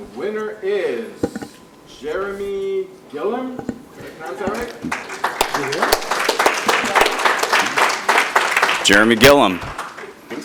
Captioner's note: applause